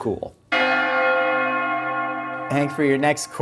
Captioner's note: bells Ringing